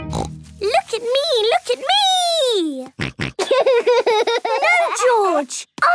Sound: snorting; snorting and laughing

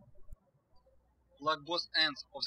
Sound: birds chirping

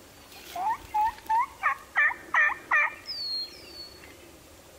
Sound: imitates gobbling

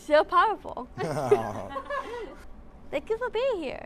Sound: laughing

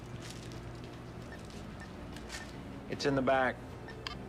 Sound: sensor beeping; sensor beeping

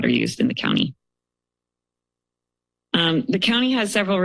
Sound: pause

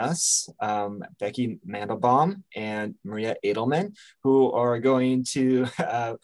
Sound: chuckles

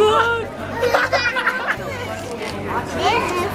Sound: excited laughter

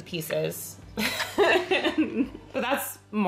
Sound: laughing

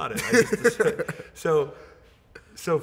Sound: laughing

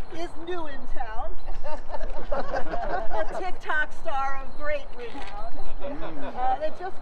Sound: laughter

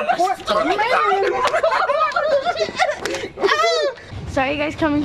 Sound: excited chattering

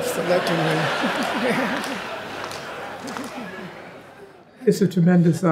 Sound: audience laughing

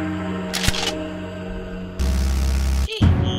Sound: mouse click

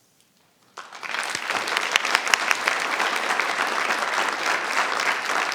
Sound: audience applauding

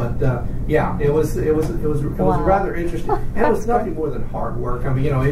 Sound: laughs

